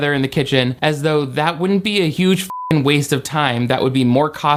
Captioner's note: beep